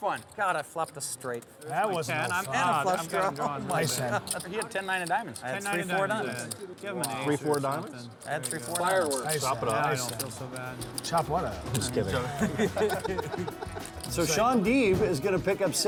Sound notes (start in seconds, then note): 12.0 laughing